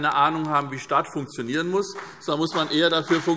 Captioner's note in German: Vereinzelter Beifall